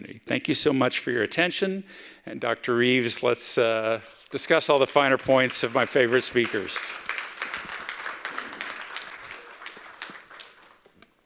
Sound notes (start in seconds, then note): 7.9 audience applauding